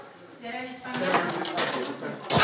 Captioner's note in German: Gespräche im Hintergrund